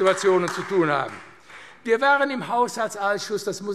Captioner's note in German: Beifall AfD